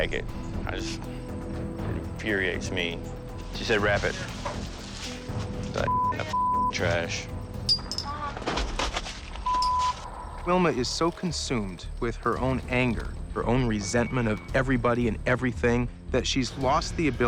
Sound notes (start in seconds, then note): 7.6 clattering